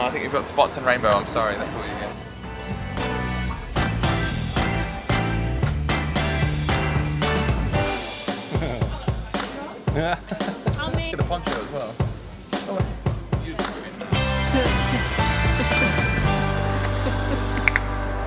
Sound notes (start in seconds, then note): 2.7 upbeat music; 9.9 laughter; 12.6 upbeat music